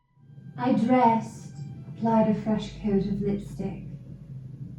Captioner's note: English accent